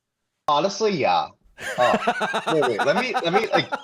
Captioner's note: laughter